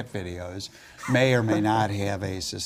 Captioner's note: laugh